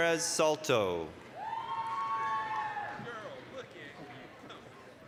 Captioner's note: applause, cheering